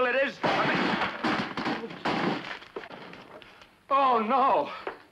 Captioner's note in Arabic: صوت ارتطام الأثاث